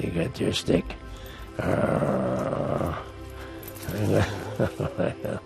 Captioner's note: playful growling